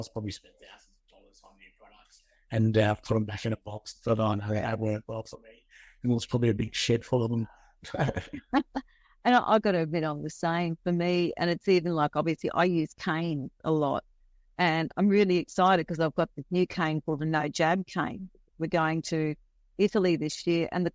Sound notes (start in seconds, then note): 7.8 both laughing